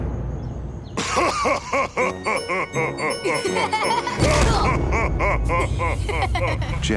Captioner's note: laughing